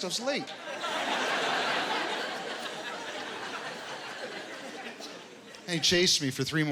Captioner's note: laughter